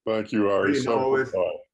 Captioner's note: speaks in foreign language